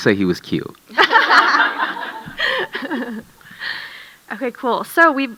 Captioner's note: audience laughing